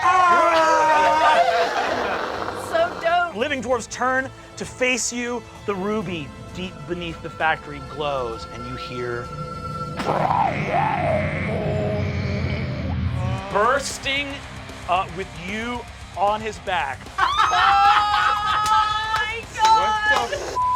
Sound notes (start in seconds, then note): 0.0 group cheering; 9.9 imitates creature growling; 17.0 players laughing and yelling